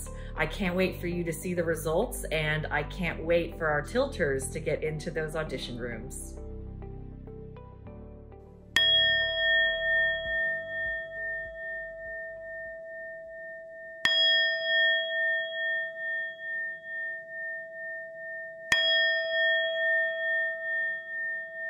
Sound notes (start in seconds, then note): 6.3 calm music; 8.8 bell dings; 14.1 bell dings; 18.8 bell dings